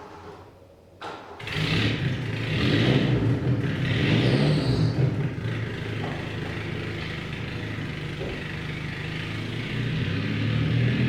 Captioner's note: car Engine Starting